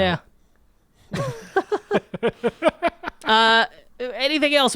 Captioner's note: laughing